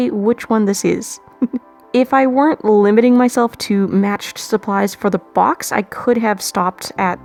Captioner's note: laughs